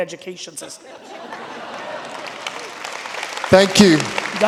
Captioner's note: audience laughing and applauding